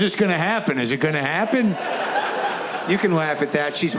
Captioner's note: audience laughs